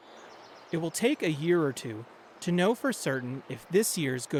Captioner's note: voice-over